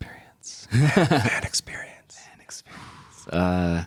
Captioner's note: laughter